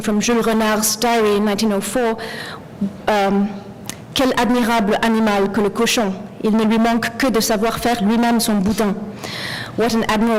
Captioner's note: french